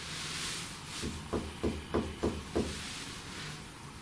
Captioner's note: knocking